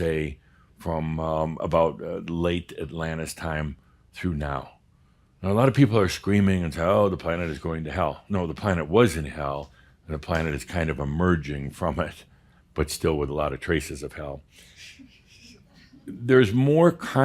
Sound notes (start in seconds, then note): 14.5 a few chuckles